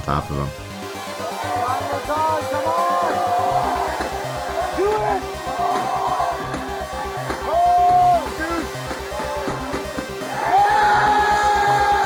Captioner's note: crowd cheering